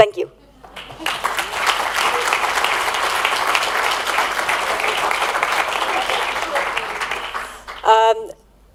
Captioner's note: applause